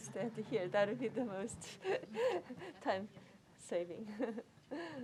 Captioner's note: laughs